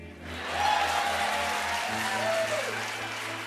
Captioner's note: cheers and applause